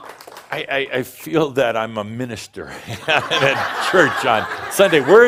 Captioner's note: audience applauds and whistles and some shouts of “No more”; more laughter